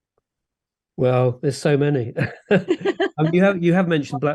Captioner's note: laughs